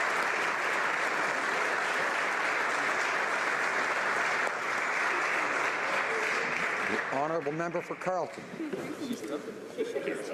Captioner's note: applause